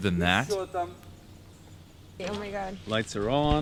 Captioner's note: people chattering